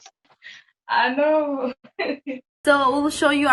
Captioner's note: laughs